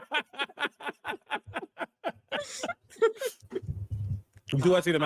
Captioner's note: Omega laughing